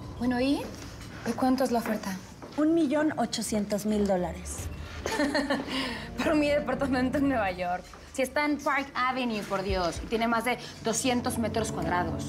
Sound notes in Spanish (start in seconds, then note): 5.0 risas